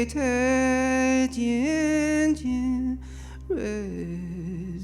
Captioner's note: chanting continues